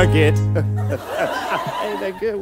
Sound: laughs

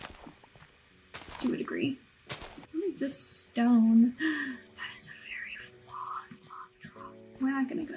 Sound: gasp

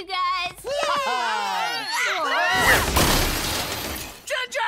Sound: screams

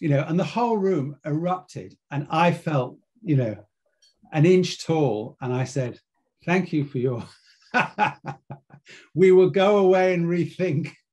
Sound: laugh

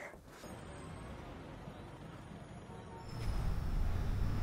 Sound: street noises

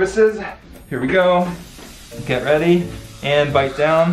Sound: air hissing

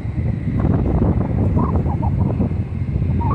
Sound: wind blowing

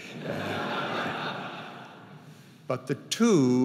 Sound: audience laughing

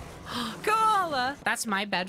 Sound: gasp

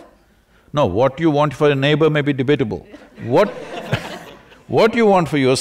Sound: laughter

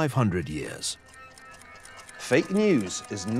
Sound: clock ticking

